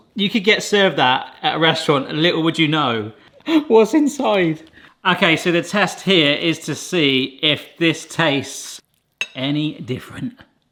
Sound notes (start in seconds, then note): none